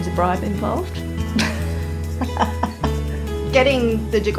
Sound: laughs

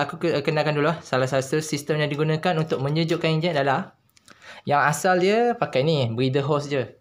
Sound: breathing

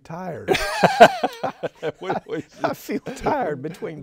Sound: both laughing

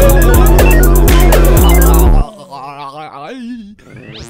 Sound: gargling noises

